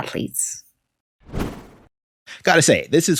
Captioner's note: air whooshes